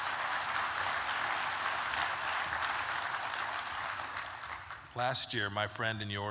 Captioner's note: applause